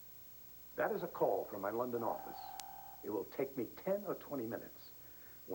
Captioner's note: telephone rgs